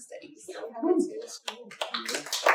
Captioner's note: applause